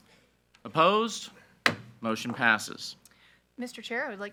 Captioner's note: gavel bangs